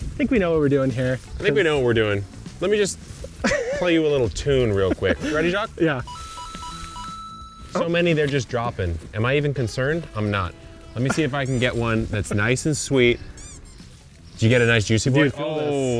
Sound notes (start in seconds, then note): 6.0 video game ping sounds; 13.1 squeaky toy sound